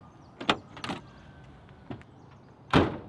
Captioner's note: car door opens; car door slams shut